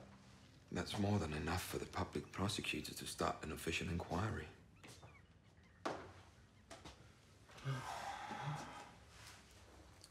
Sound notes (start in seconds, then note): 7.5 sighs